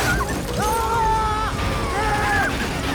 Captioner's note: screaming in agony